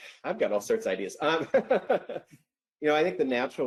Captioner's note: laughs